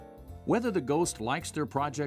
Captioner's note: voiceover